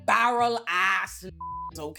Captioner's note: beep